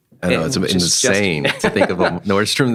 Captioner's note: laughing